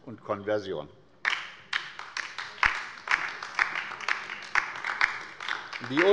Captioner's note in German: Beifall bei der LINKEN